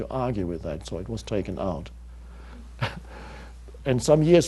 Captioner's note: chuckles